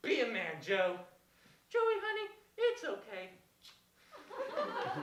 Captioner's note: smooch